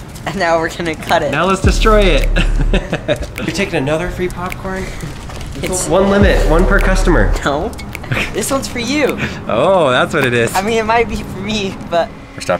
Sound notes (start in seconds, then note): 2.2 laughs